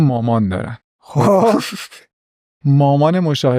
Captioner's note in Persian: خنده